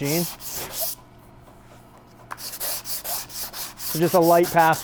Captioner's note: sandpaper scraping